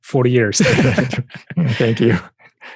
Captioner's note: both laughing